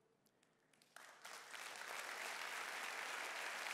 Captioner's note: clapping